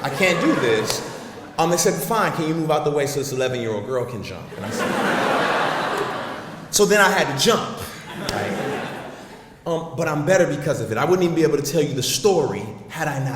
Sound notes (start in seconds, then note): 4.5 audience laughs